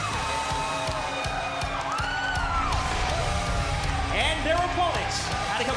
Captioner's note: crowd chatter